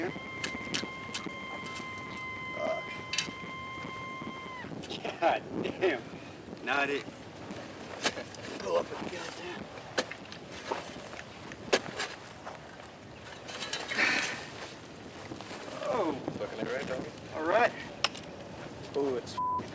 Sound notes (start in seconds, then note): 0.0 high pitched sound from metal detector; 7.8 digging sounds